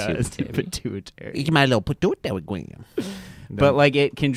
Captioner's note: laughs; funny voice